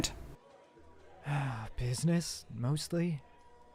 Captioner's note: light relieved sigh